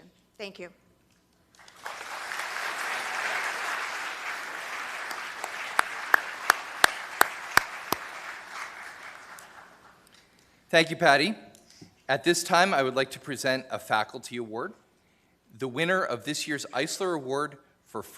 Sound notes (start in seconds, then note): 5.6 applause